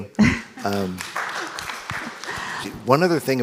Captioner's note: audience applauds